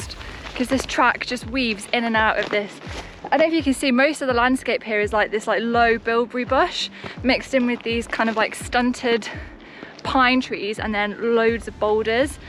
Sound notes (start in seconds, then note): none